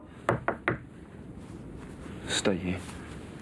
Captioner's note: knocking on door